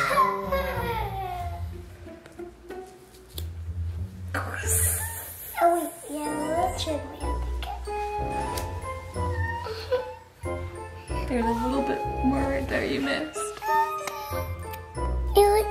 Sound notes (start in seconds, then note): 3.6 scissors snipping